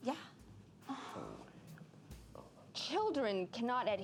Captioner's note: groaning